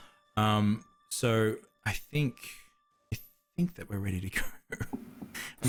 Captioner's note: laughs